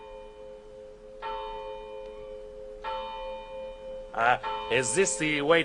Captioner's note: bell